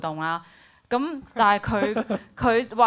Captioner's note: laughs